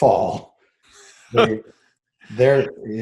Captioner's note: chuckling